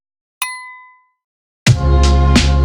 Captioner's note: ding; upbeat funky music